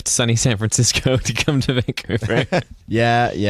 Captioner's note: laughing